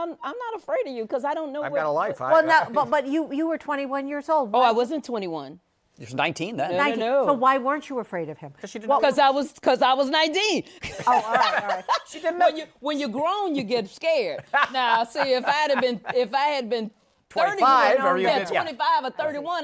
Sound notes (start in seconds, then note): 10.8 laughter; 14.4 laughs